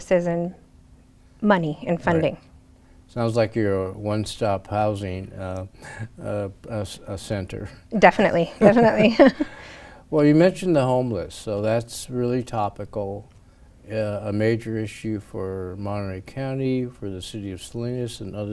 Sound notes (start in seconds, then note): 8.5 laughs